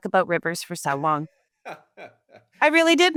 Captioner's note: laughing